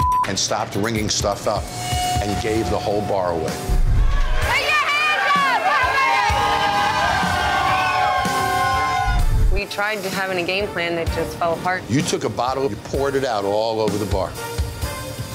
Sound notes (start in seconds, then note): 6.0 crowd cheering